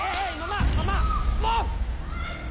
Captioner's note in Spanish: Estruendo